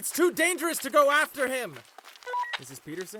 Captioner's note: walkie-talkie static